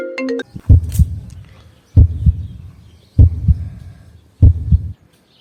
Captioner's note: heartbeats